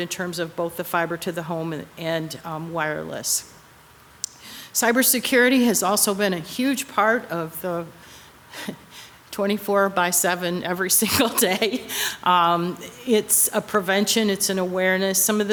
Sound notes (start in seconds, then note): 11.0 laughing